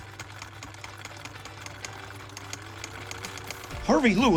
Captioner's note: sewing machine whirring